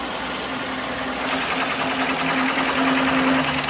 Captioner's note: rattling